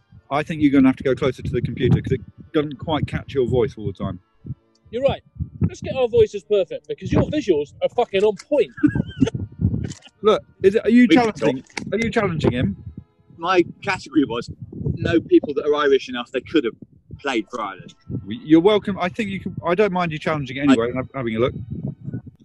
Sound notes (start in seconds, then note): 8.4 laughter